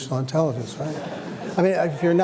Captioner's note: laughter